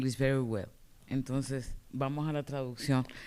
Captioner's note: speaking spanish